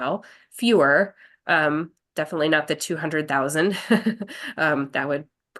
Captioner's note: chuckles